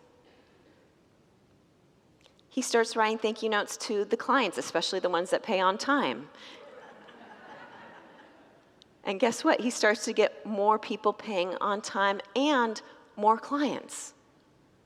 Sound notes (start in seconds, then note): 6.5 congregants laugh